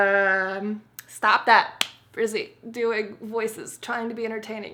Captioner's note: smack